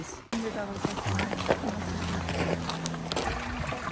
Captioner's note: crunch